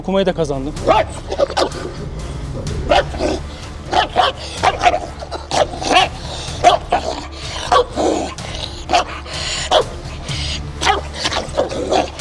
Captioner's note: barking, growling sounds and tension music